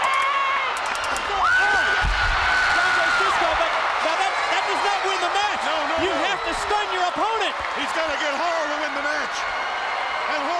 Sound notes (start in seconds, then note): 0.6 fan screaming